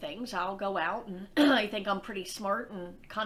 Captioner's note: clears throat